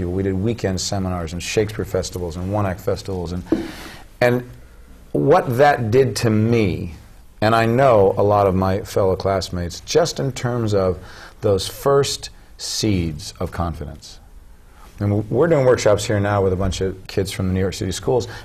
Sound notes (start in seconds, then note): none